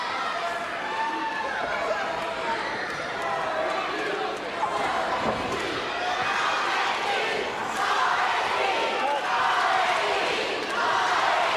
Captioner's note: crowd cheering